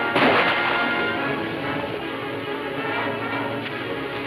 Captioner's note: gun firing; dramatic music playing